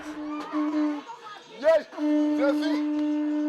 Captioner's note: horn blares